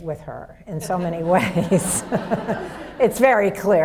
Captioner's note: audience laughs